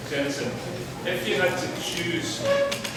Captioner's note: voiceover